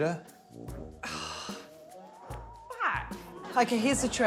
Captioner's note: groans